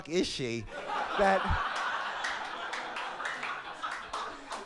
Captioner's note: audience laugh